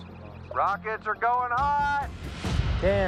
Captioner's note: over walkie